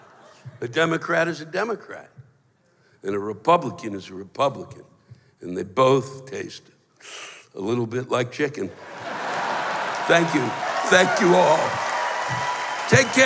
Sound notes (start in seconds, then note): 6.6 sucking sound; 8.8 laughter; 11.7 cheers